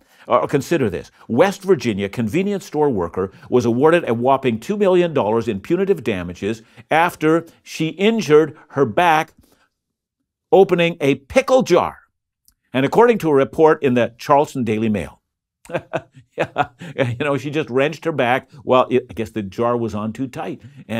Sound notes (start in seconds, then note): 15.6 laughs